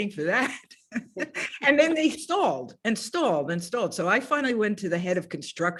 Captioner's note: laughs